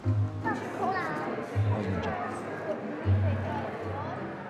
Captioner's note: guests chattering